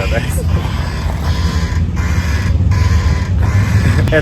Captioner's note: loud creaking